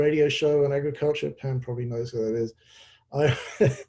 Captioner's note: laughs